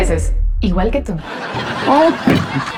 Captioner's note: risas